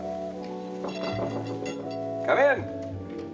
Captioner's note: knock on door